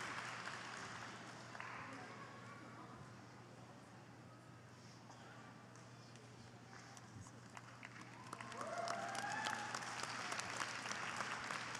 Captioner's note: applause